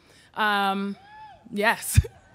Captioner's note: audience cheering; laughs